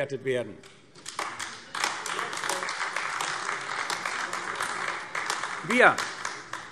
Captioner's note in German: Beifall AfD